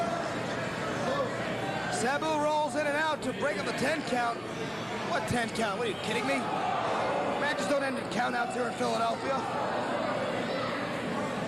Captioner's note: cheers and applause